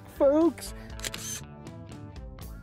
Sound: camera shutter click

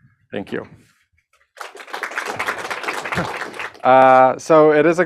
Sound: applause

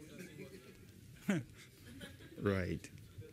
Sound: laughter; off mike

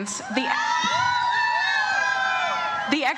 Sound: audience cheers

